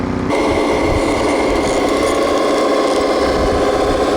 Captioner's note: motor running